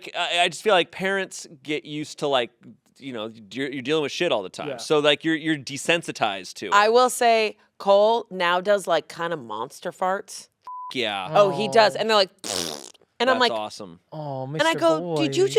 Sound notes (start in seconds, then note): 10.6 beep